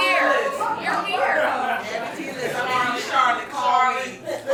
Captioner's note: audience loud chatter